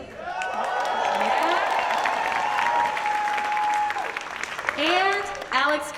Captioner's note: audience cheers